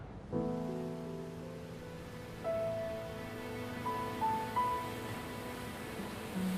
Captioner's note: solemn music; waves splashing